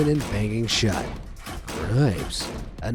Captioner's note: door slamming